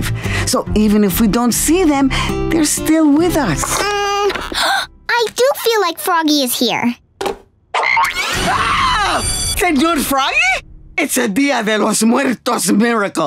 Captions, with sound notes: So even if we don't see them, they're still with us. [gasping] I do feel like Froggy is here. [croaking, screaming] Señor Froggy? It's a Día de los Muertos miracle.